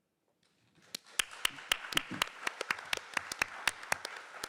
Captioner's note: audience applauding